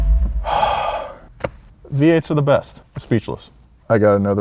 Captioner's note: exhaling deeply